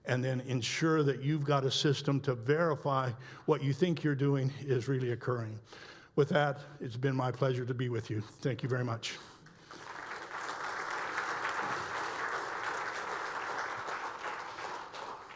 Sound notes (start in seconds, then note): 9.5 audience applauds